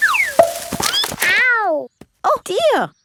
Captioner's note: thud